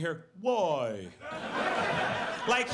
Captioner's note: audience laughs